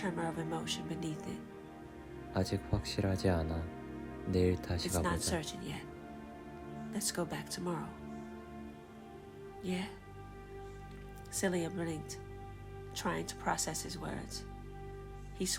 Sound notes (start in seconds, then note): 5.0 Korean